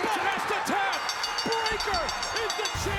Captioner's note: bell ringing